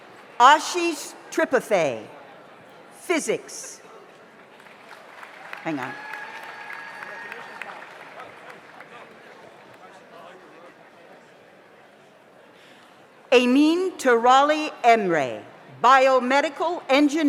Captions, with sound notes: Ajish Tripave, Physics. (audience applauds) Hang on. (overlapping chattering) Anin Teralli-Enre, Biomedical Engineering.